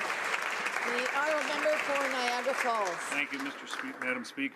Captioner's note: applause